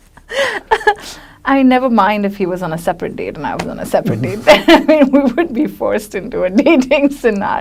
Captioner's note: laughs